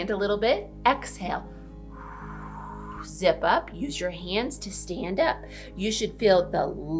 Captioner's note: exhales